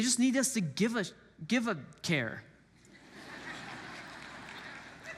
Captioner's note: congregants laugh